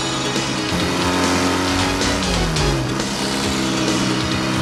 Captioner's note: motorbikes rumbling